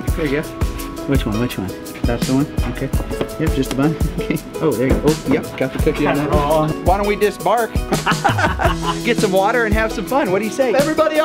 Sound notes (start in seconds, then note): 7.8 laughing